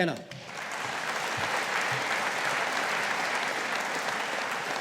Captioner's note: audience applauding